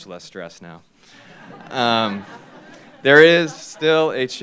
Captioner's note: laughter